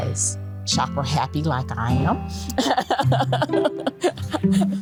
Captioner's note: laughs